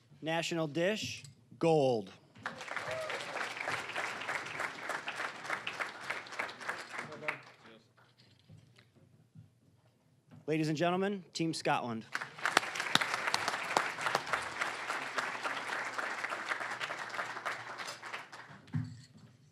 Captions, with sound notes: National dish, gold. (applause) Ladies and gentlemen, Team Scotland. (applause)